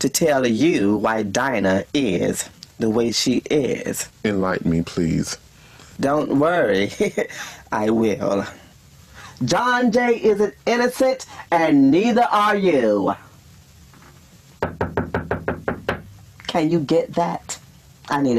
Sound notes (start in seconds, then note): 7.1 laughs loudly; 14.6 knocking on the door